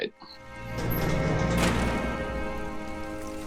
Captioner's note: door closing; waves lapping